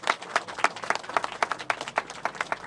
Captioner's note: applause